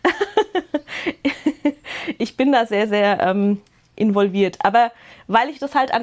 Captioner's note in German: Gelächter